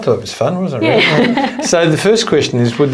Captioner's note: laughs